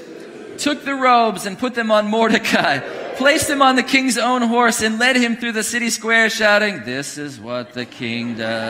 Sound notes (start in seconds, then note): 2.7 congregation cheering